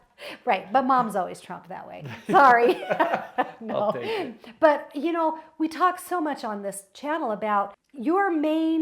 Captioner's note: laughs